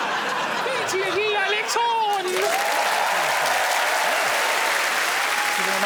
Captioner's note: in a high-pitched voice